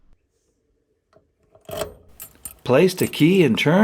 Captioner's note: key insertion noise